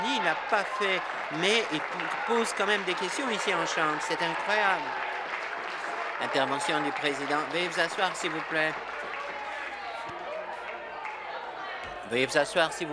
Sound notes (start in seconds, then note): 5.8 applause